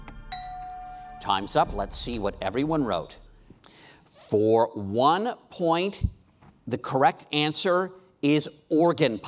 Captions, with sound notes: (bell dings) Time's up, let's see what everyone wrote. For one point the correct answer is Organ Pipe.